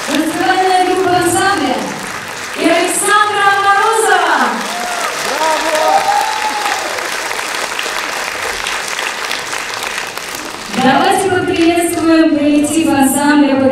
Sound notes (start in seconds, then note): 5.0 applause, shouts of "Bravo!"